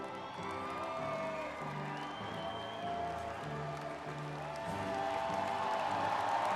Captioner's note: everyone cheering